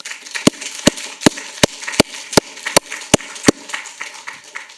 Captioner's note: audience applauding